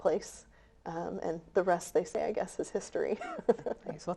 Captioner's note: chuckles